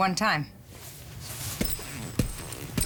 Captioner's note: spurs jingling